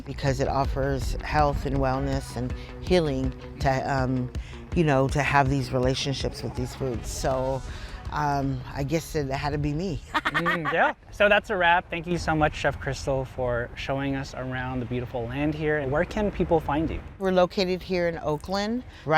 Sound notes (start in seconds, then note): 10.1 laughs